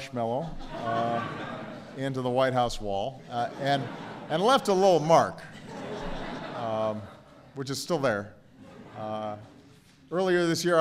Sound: laughter; laughter

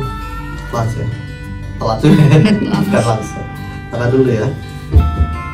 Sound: chuckles

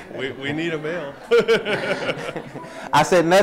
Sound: laughs

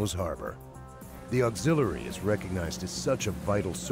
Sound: voiceover

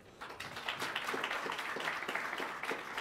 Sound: applause

